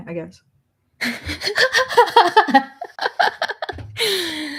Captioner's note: laughs